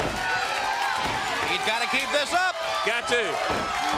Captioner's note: crowd cheering